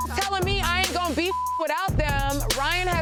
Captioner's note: beeps